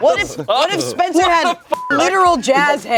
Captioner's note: beep